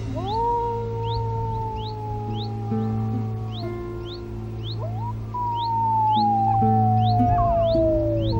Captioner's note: howl